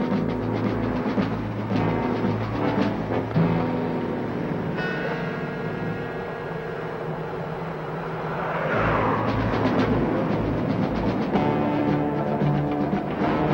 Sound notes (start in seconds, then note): 5.5 suspenseful music continues; 7.4 car whizzes; 10.4 suspenseful music